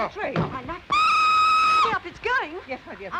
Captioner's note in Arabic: صافرة القطار